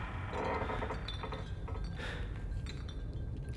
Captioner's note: wood creaking, bottles rattling